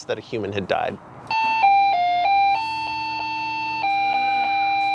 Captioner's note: tone chimes